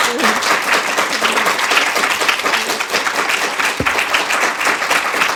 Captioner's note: audience applauding